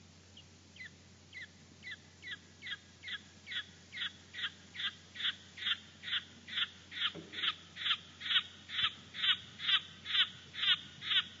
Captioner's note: sounds of Litoria coplandi - rock frogs calling